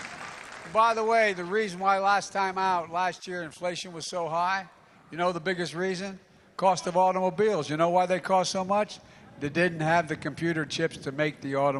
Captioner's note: applause